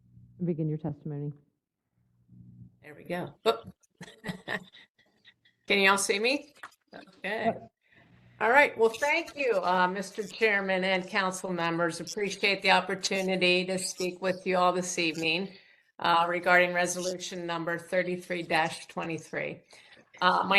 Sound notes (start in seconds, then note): 4.0 laugh